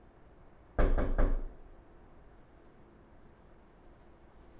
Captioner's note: knocking at door